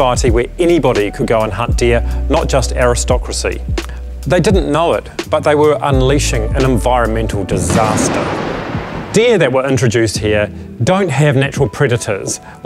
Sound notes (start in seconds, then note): 7.6 gunshot sound